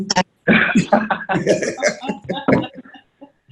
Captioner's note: laughing